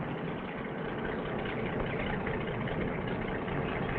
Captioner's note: engine puttering